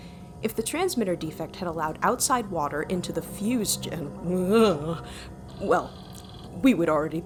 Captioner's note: ‘nnnghhhh’ noise again